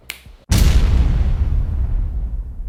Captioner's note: boom